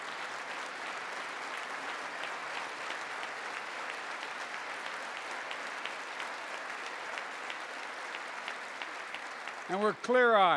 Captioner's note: applause